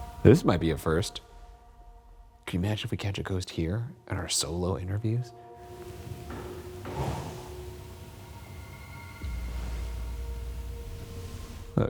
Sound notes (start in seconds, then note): 5.6 wood creaking; 8.7 gentle ominous music